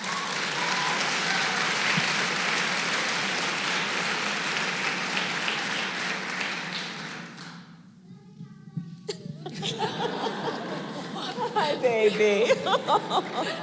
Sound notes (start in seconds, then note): 0.0 applause; 9.1 laughter